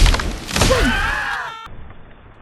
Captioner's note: bugs scream